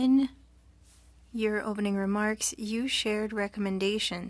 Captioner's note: speaking French